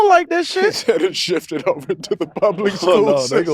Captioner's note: laughs